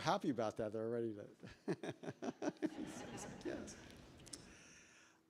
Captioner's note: laughs